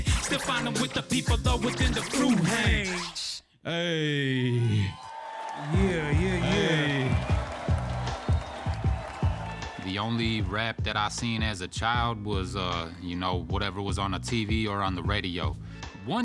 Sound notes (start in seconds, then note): 4.7 crowd cheers; 7.6 crowd cheering